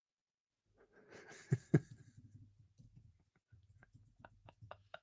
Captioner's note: laughter